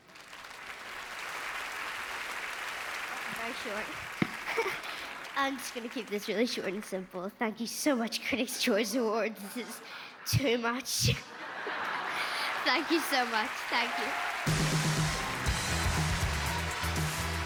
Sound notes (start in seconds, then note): 9.3 applause